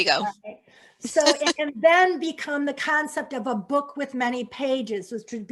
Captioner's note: laughter